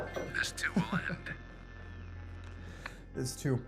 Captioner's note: Kenny laughs